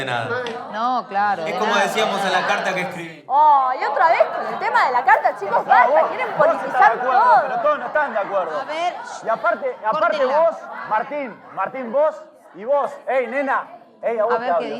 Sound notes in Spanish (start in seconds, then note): 10.2 Gritos, Discusión